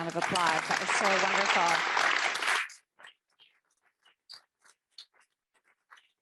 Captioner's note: audience applauds